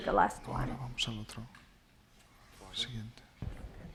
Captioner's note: quietly; speaking spanish